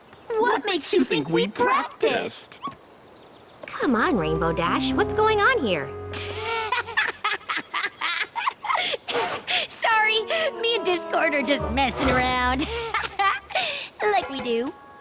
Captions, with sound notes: What makes you think we practiced? Come on, Rainbow Dash. What's going on here? [laughter] Sorry, me and Discord are just messin' around. Ha ha. Like we do.